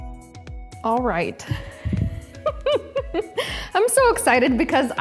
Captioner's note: laughs